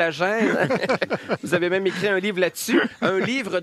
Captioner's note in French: rires